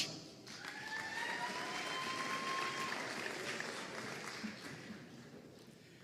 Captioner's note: audience cheering and applauding